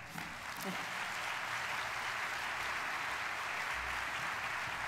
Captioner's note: audience applauding